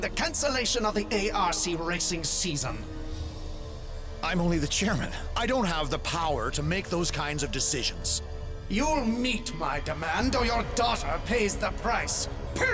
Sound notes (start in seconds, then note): none